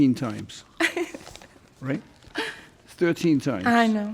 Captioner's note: laughs